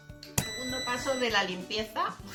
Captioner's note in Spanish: sonido: risa ahogada; sonido: piiii